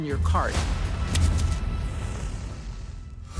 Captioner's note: flame bursting